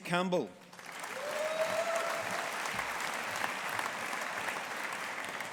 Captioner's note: audience applauding